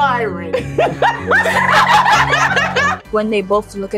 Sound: laughter

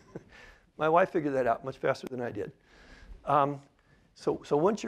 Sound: laughter

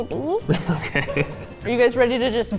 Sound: laughs

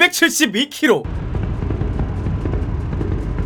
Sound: engine sound while stopped

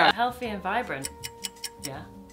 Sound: clock ticks

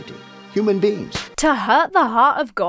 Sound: bible thuds; cross slaps

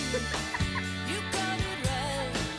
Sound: woman on DVD laughing

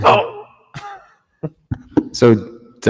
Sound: laughs

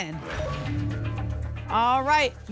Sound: whoosh; ping

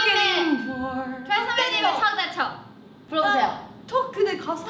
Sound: speaking in Korean

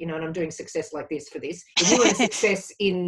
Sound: laughs

